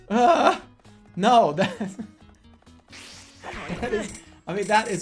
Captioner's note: giggling